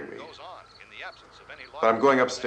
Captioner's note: radio continues